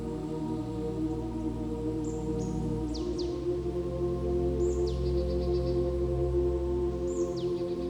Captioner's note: peaceful music; birds chirp